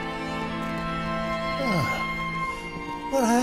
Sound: sighs

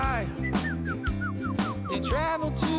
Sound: birds chirping

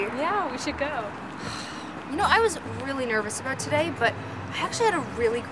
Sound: sigh

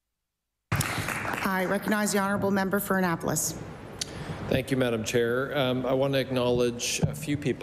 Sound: applause

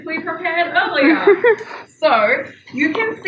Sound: laughs

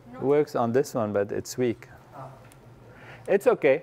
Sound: none

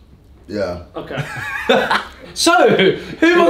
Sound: laughs

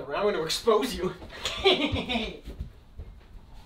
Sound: Ryan cackles

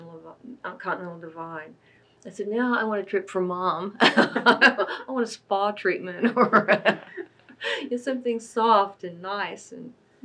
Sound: laughs

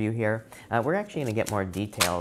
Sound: cards shuffling

